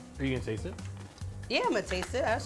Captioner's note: food sizzling